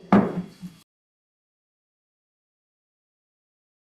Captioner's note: gavel banging